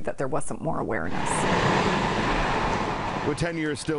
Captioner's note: roadside noises